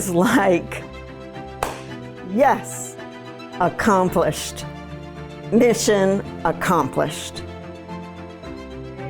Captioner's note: clap